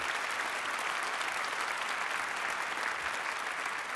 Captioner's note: applause